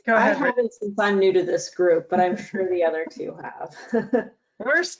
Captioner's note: laughs